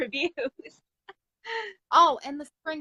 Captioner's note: laughs